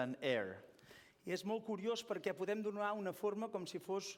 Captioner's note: non-english speech